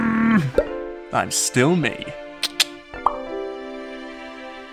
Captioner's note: loud grunt; uplifting music; tongue click